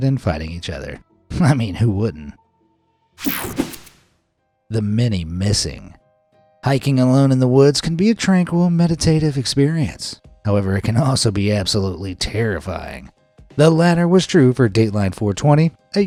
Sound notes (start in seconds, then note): 3.2 air whooshing